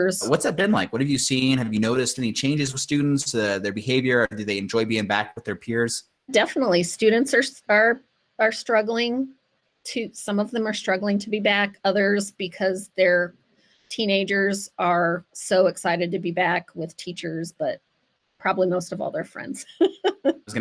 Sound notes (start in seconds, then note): 16.0 laugh